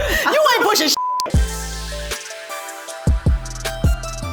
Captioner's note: beep; relaxing music